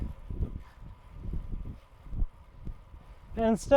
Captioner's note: wind blowing